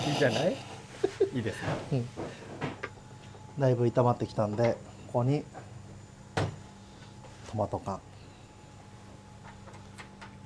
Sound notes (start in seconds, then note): 0.0 laughs